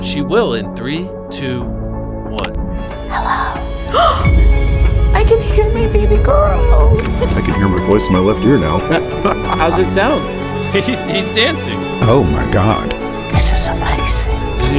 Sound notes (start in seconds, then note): 2.3 check mark clicks; 3.1 mother gasps; 8.6 laughs